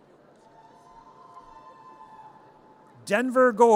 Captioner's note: audience cheers